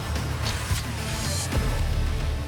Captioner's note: arrow strikes